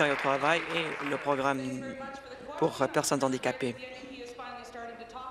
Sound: applause

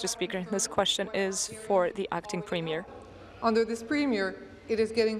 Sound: speaking in french

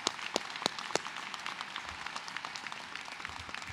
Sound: cheers and applause

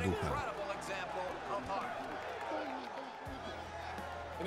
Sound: audience cheering

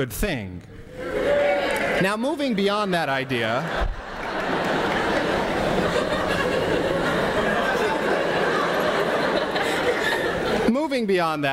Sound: laughter from the audience

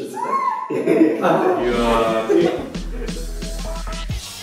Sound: groan in the background

